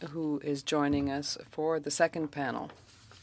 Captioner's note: speaking French